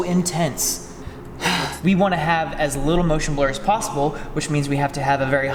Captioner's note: sighs